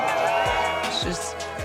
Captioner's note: crowd applauding and cheering